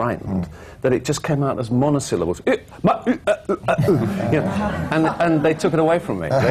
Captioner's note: laughter